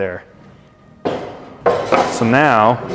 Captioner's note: metal clanking